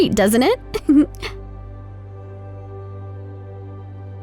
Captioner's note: laughs